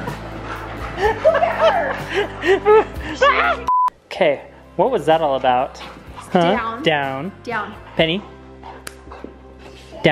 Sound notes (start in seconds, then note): 2.8 yelling; 3.7 signal tone